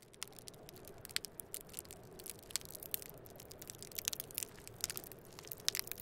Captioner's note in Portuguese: Crepitação